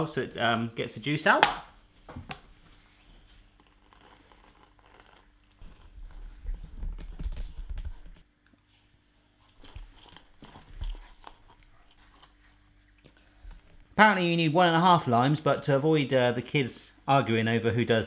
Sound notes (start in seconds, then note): none